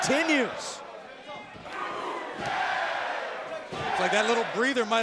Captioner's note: crowd cheering